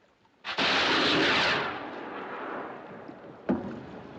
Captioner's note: rocket Whooshes; pops